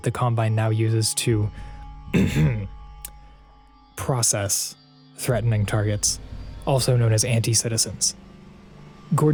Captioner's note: ahem